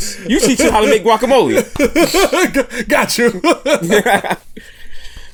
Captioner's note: laughs